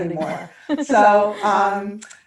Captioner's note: both laughing